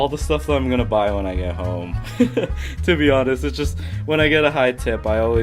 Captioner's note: laughs